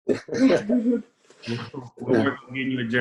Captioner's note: laughs